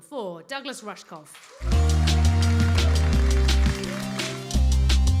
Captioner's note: applause